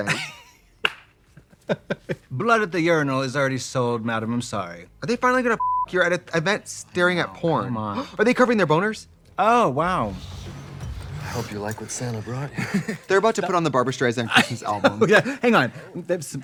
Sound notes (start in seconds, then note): 0.8 Katya laughs, claps; 5.6 beep; 7.9 Trixie gasps; 10.6 sensual music